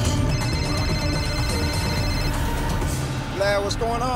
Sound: phone rings

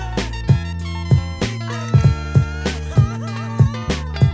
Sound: laughing

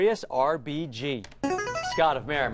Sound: buzzer plays

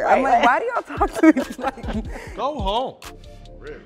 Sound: laughing

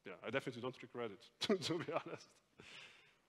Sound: laughs

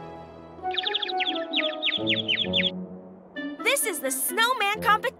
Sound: bird tweeting

